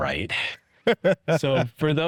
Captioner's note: chuckles